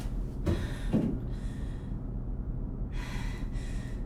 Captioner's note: breathing heavily